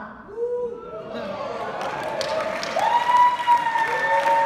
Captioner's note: clapping